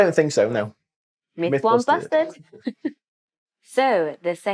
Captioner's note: laughs